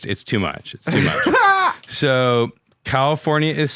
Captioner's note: laughing